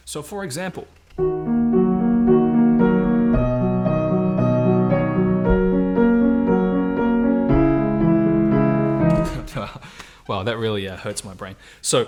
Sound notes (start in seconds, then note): 1.2 gentle piano music; 9.2 chuckling